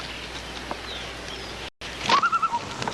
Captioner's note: bird cawing